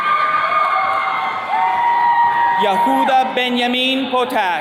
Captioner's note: attendees cheering